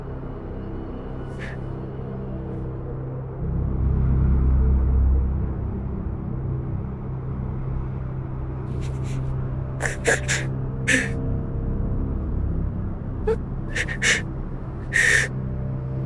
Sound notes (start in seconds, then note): 9.2 crying